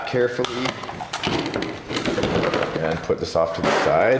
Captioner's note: packaging rustling and smacking